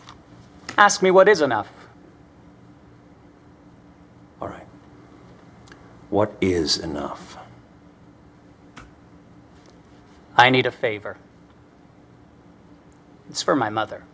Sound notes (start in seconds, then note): none